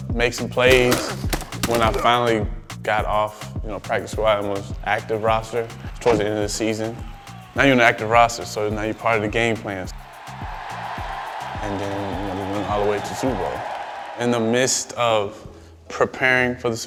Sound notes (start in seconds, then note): 10.1 crowd cheers